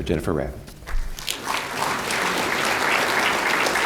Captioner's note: applause